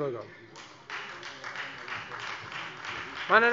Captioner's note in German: Beifall Freie Demokraten